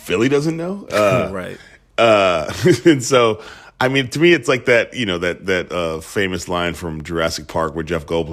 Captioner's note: laughter